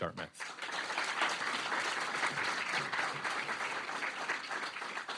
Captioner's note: audience clapping